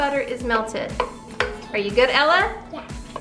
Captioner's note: spoon tapping